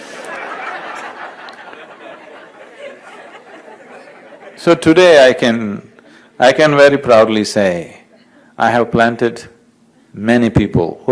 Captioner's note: laughs